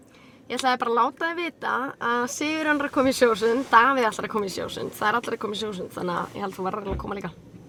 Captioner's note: speaking Icelandic